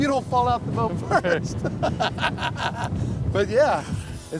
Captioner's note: laughs